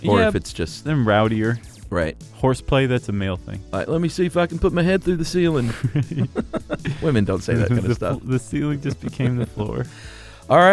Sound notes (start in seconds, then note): 5.6 laughter